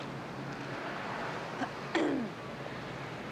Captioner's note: clears throat